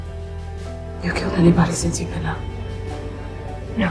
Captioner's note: voiceover